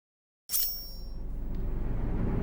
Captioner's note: metal clings